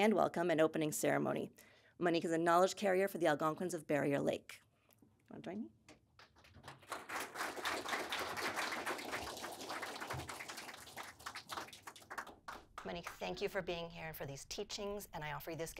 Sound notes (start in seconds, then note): 6.3 audience applauding